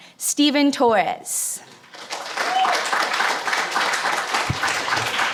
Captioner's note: audience applauds